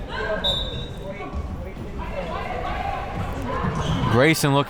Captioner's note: whistle tweeting; crowd members shouting